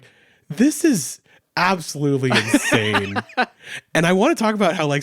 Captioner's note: laughs